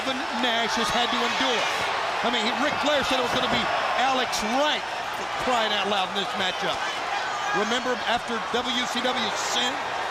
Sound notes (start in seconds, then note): 7.1 crowd chatter